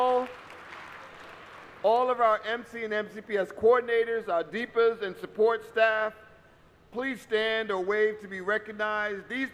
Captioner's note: applause